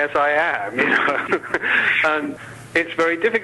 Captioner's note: laughs